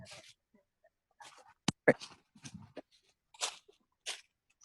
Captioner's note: grass crackling